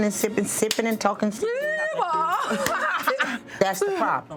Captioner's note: yelps